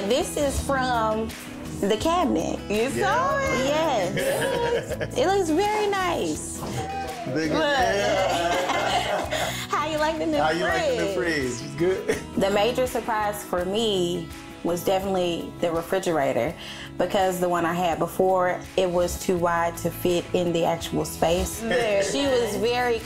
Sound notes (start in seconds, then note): 4.1 laughs; 7.9 all laughing